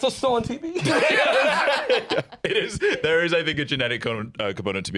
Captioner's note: laughs